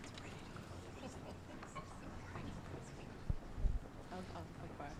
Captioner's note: whispering